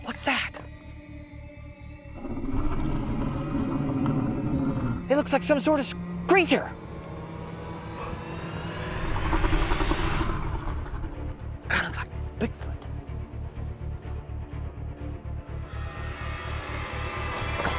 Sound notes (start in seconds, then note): 2.0 low growling; 8.5 faint growling; 14.4 suspenseful music